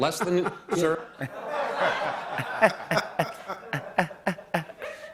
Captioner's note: Imitating Biden laughter